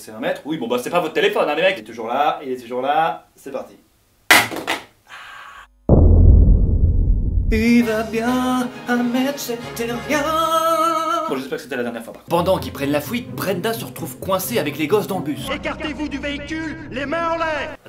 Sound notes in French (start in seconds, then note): 4.3 bruit du téléphone qui tombe; 5.0 soupir de d’appréhension; 7.2 en chantant